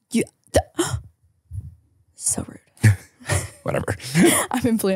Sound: gasps

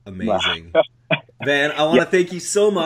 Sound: coughing

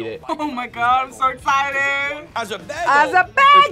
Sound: laughs

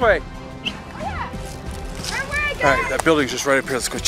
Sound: whistles

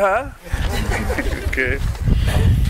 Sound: laughing

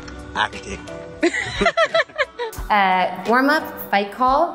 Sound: both laughing

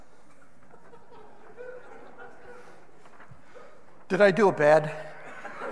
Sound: audience laughing

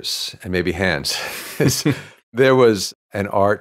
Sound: laughs

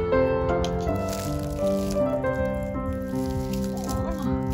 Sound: leaves rustling

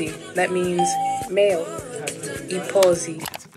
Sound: bell rings

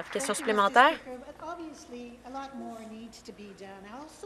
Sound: some Applause

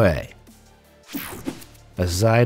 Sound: image whooshing

